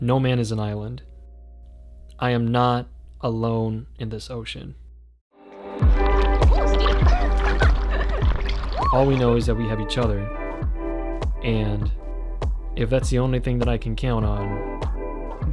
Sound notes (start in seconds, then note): 5.8 upbeat music; 6.5 laughs